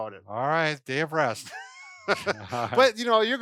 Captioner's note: laughs